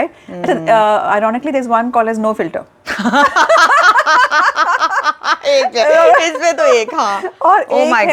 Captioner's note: both laugh